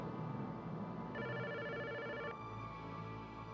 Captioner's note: telephone rings